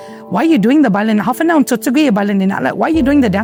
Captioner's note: in native chamoru